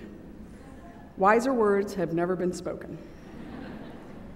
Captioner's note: laughter